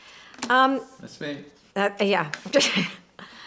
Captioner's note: laughs